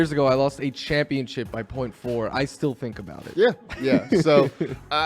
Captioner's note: laughs